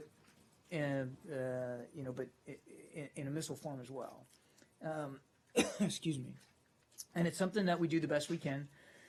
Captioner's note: coughs